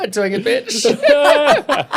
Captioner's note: laughing